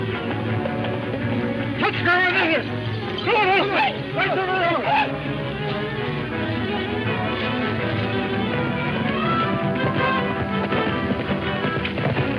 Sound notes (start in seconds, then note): 1.8 Red Hatchet speaking in foreign language